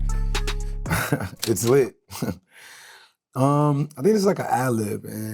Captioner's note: laughs